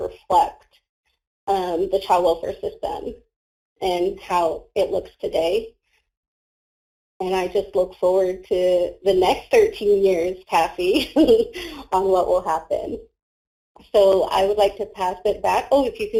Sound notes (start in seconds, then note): 11.3 laughs